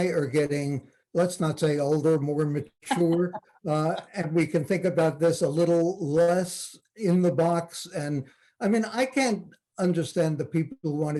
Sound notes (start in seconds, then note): 2.9 laughs